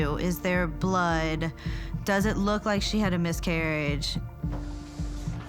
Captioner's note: none